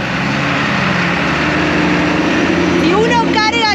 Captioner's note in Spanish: sonido del camión